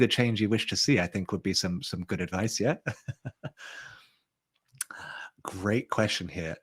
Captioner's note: chuckles